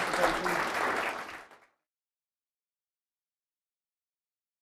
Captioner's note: audience applauds